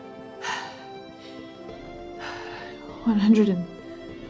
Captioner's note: breathing heavily; exhaling